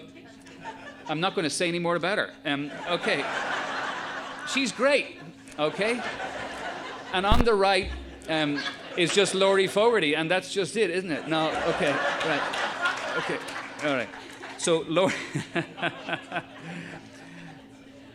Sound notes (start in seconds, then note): 3.2 audience laughing; 11.5 audience laughing; 16.4 laughs